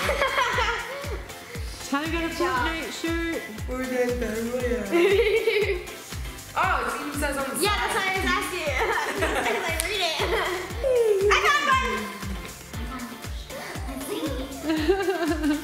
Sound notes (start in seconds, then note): 0.0 laughing; 4.3 laughing